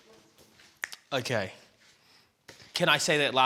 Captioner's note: snaps fingers